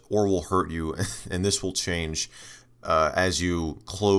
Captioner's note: chuckle